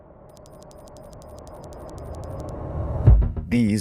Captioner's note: electronic beeping